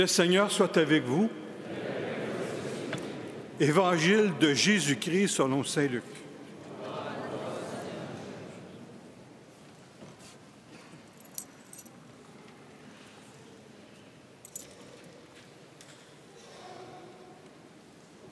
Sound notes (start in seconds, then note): 7.6 speaking Alternate Language